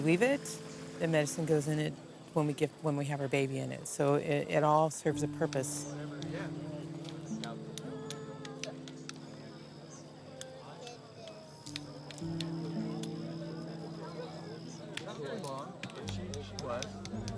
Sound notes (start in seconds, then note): 5.1 chattering; 8.6 rocks tapping